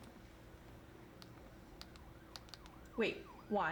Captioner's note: typing Sounds